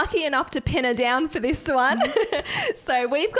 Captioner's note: chuckles